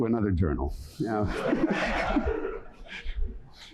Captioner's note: laughter